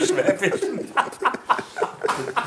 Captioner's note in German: Lachen; lacht